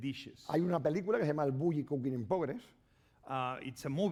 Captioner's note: speaking spanish